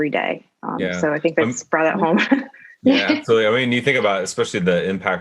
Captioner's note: laugh